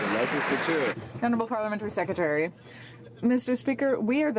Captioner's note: some Applause